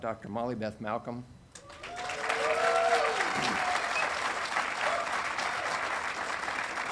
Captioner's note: audience applauding and cheering